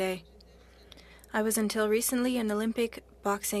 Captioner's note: speaking French